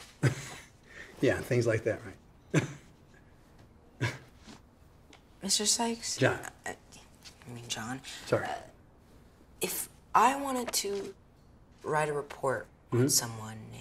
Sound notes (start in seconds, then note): 0.1 chuckles; 4.0 chuckles